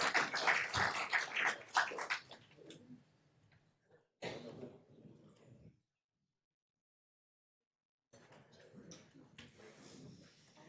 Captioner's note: applause